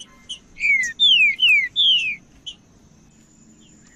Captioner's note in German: trinca ferro cantando